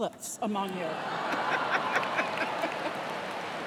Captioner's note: laughter